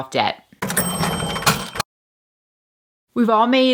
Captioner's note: bell dinging